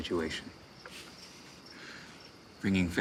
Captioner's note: laughs